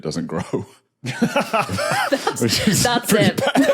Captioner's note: group giggling